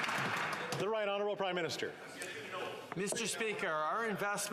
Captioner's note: some Applause